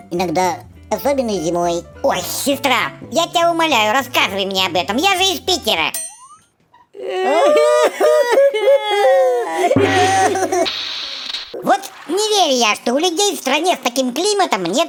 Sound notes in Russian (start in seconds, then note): 6.9 рыдают надрывно